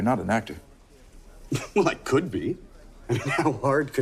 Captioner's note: scoffs